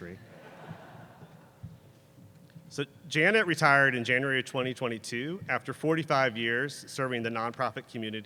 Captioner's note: laughter